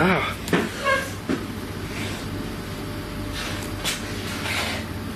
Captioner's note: chair scrapes